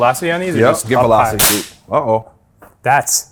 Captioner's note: band snaps